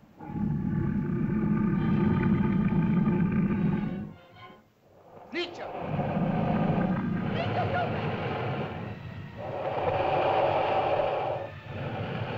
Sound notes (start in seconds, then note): 0.1 suspenseful music; 0.1 loud growling; 5.0 dinosaurs growl; 5.2 speaking in caveman language; 7.9 dinosaurs growl; 7.9 ominous music